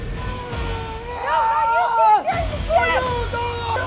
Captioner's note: man screaming